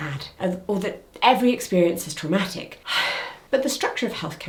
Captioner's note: sighs